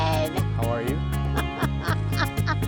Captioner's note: laughs